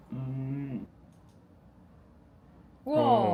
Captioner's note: click